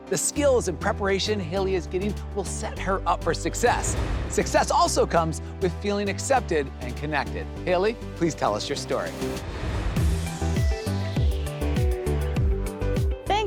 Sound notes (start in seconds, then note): 9.0 air whooshes; 10.0 upbeat music